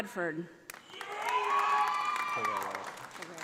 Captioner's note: audience applauding